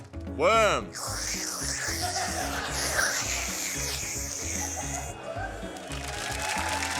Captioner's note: slurping noises